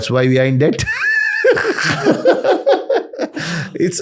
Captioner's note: laughter